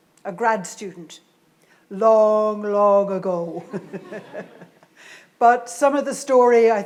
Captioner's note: laughs